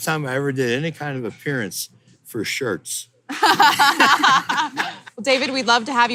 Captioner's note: laughter